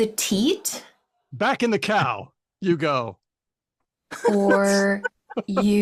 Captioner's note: laughs